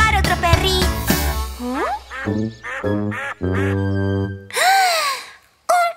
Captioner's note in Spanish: Sonido de pato